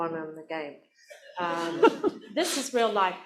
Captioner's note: laughter